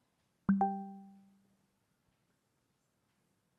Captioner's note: computer chimes